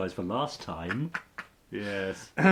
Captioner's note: laughs